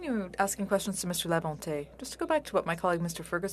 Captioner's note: speaking French